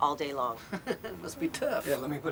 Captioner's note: chuckles